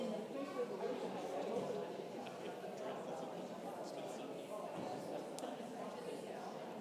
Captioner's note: congregation indistinctly chatting continues